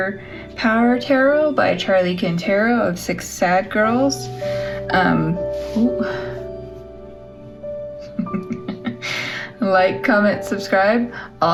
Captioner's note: laugh